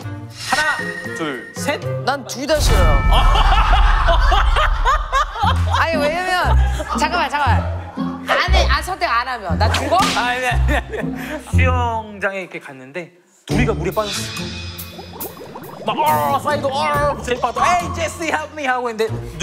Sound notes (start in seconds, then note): 3.2 laughing